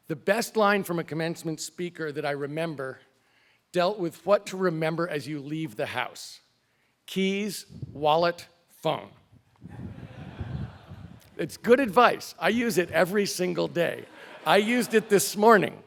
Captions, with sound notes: The best line from a commencement speaker that I remember, dealt with what to remember as you leave the house. Keys, wallet, phone. >> [LAUGH] >> It's good advice, I use it every single day, I used it this morning.